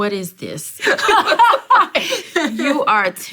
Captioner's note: both laugh